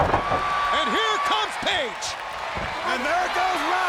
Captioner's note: audience cheers